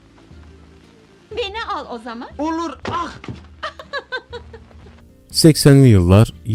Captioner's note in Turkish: kahkaha